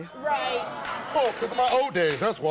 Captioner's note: audience cheers